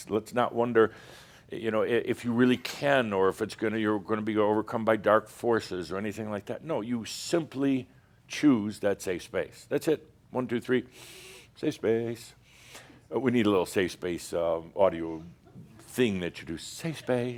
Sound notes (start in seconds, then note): 10.9 deep breath; 15.2 a few chuckles